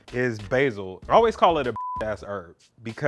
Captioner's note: beep